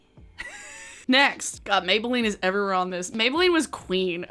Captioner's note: laughs